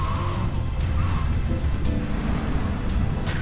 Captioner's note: tires screech